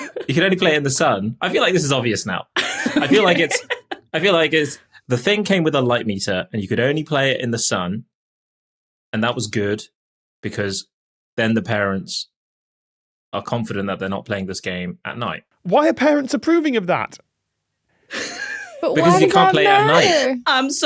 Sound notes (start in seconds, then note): 0.0 laughs; 2.6 laughs; 18.1 wheezes